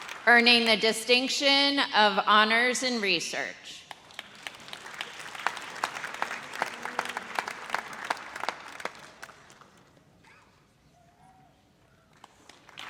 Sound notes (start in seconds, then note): 5.5 audience applauds